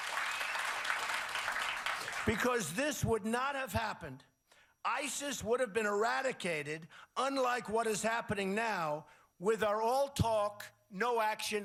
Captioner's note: cheers and applause